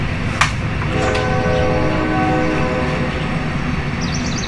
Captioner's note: train horn